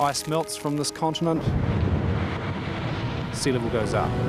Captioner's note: ice breaking away